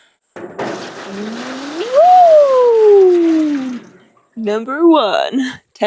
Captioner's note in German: Wasser rieselt